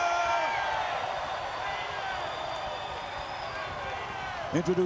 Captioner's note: crowd clamoring